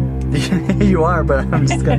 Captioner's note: laughs